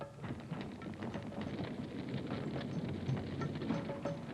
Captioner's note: fire crackling